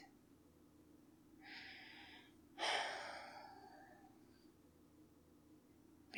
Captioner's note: sighs